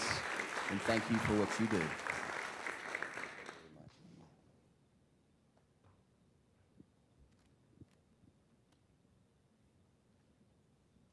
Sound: applause

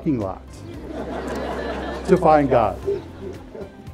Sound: laughing

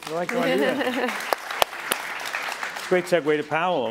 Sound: applause

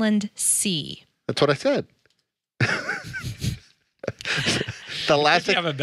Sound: laughs

